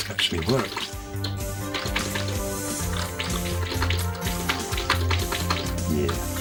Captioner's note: keyboard Clicking and Game Sounds